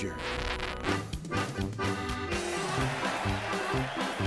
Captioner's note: record scratching; upbeat polka music